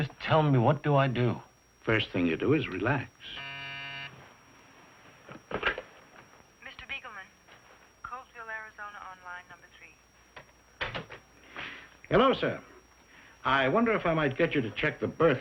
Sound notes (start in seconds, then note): 5.5 buzzer